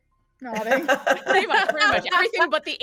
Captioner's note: everyone laughs